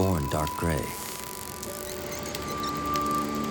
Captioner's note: dolphins clicking, laughing